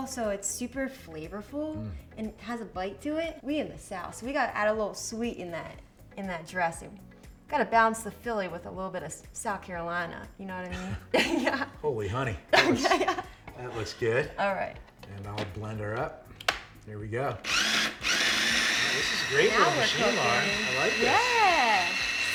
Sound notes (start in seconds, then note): 12.5 laughs; 17.4 blender whirring